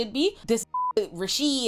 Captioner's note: beep